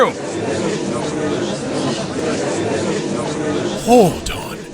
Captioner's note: gallery chattering